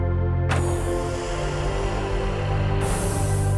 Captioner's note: pressurized door sound